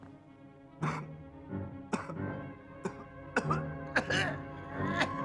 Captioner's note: coughs